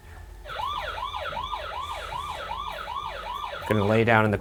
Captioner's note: siren blares